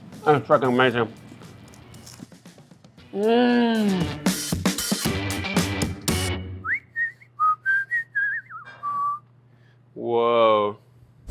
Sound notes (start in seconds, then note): 3.6 upbeat music; 3.7 whistling